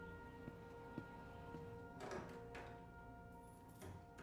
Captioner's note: door opens, keys jingle, door closes